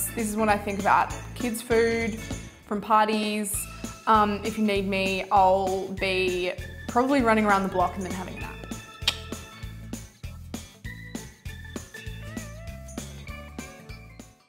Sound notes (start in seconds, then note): 9.0 clicks; 10.7 upbeat music